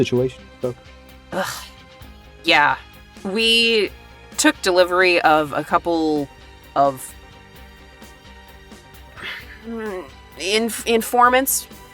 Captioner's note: sighs